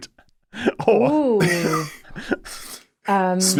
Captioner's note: laughs